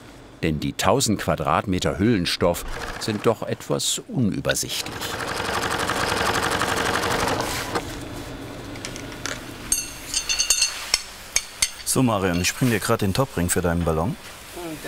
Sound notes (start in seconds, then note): 9.7 metallic clanking